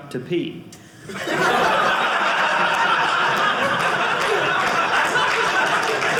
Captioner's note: audience laughing; audience clapping